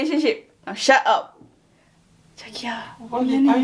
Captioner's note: continues speaking in Korean